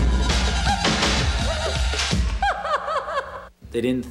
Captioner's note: woman laughing